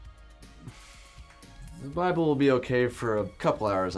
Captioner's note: sighs